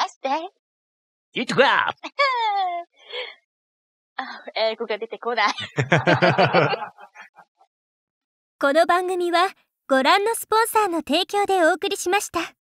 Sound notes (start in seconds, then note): 5.5 laughs